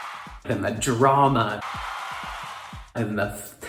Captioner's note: crowd cheering